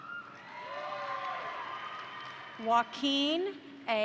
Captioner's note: crowd cheering; crowd applauding